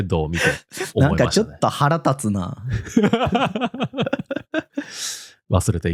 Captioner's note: laughs